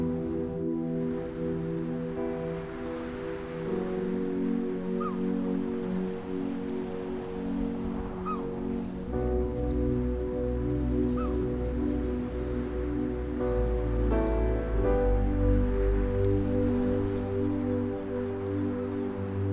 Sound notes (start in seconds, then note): 5.0 seagulls cawing